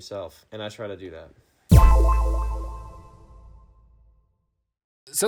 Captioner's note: sharp tone echoing